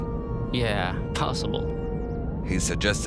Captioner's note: sarcastically